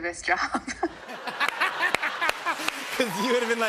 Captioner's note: laughter